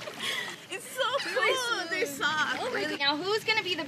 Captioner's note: laughing